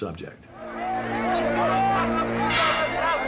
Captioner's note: clamoring